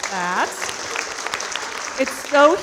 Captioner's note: audience applauding